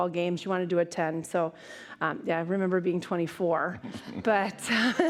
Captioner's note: laughs